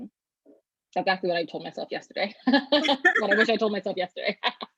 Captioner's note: both laugh